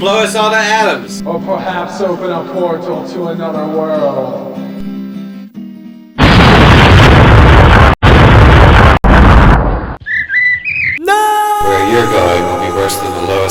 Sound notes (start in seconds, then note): 6.2 abrupt explosion; 12.3 disembodied Voice